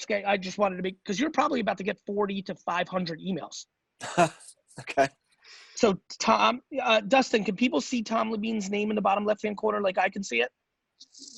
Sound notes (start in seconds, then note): 4.0 laughing